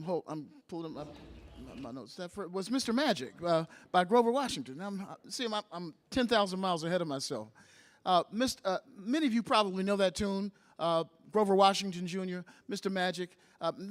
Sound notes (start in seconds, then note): none